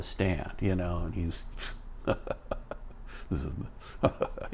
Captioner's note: laughs